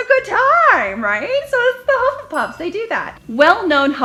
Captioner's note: dings